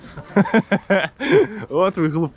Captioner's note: laughter